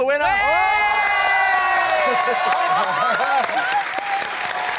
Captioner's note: cheering, applause